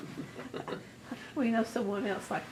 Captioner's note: laughs